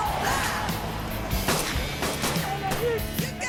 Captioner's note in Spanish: Disparos